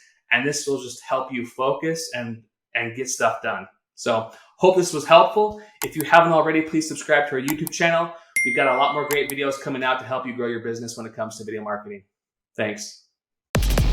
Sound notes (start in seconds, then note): 8.4 bell dinging